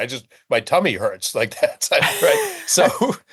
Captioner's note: laughing